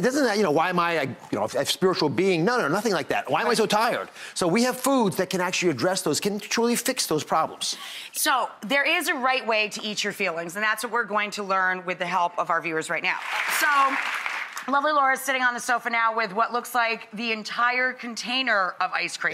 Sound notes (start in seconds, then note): 13.1 applause